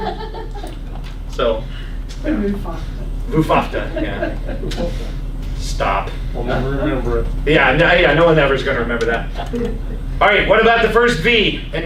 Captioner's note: laughs